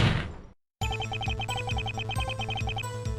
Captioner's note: gunshot; upbeat music